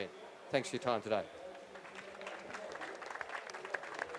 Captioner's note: audience applause